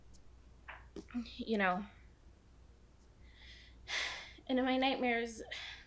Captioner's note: sighing